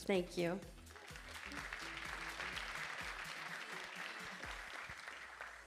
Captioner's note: audience applauding